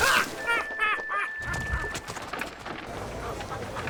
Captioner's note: 鲁伯特笑声